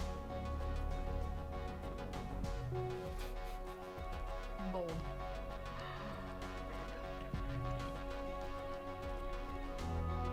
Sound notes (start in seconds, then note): 5.7 gasps; 7.3 dramatic music